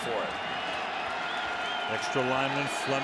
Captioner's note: cheering